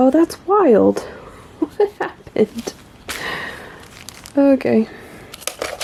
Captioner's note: laughs in confusion